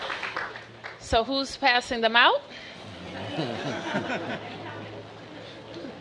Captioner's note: applause